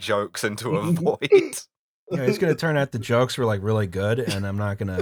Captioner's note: laughter